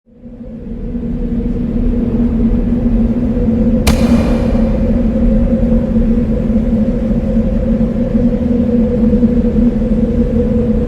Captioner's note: wind